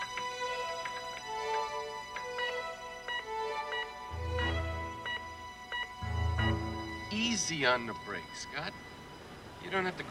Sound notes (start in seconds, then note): 2.9 alarm beeping